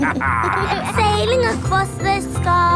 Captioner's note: captain dog and kids laughing